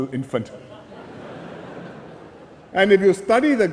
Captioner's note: laughter